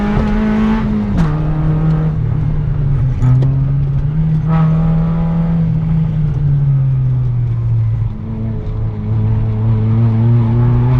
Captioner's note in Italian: rombo di motore